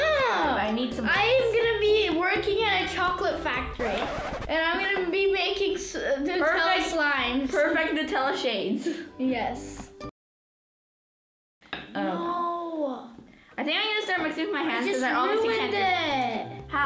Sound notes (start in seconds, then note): 3.8 screeching